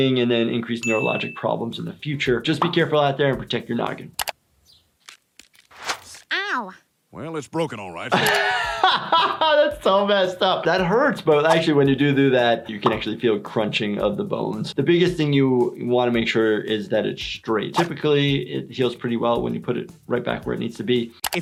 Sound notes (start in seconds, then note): 7.9 he laughs